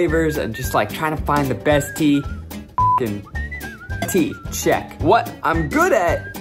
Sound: beeps

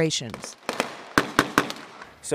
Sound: shots fired

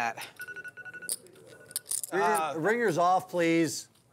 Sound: phone rings

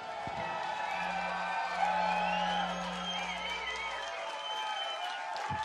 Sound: cheers, whistles, & applause

